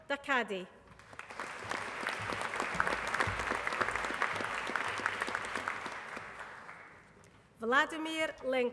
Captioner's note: applause